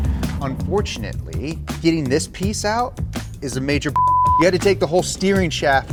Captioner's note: beep